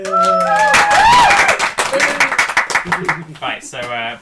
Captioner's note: applause